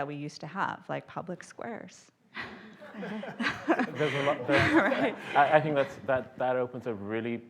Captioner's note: laughter